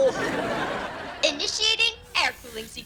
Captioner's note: audience laughs